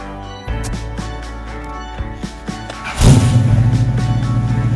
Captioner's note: door shuts; engine roars